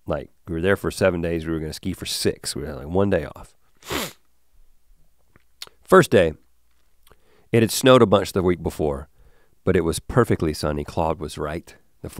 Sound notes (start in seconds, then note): 3.8 sniffles